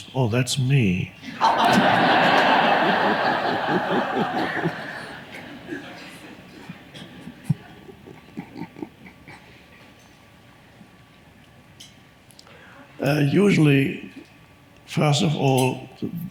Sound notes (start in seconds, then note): 1.2 audience laughs; 1.3 Eckhart laughs